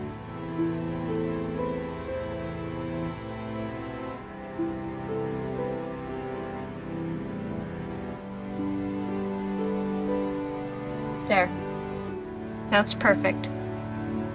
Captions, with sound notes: (Necklace jingles) There, now it's perfect